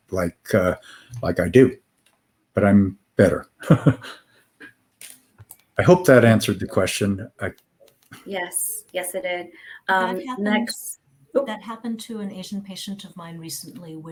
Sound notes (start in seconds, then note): 3.6 chuckling